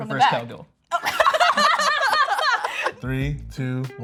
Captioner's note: both laugh